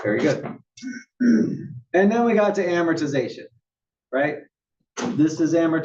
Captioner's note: cough